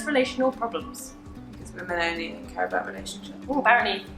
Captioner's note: sarcastically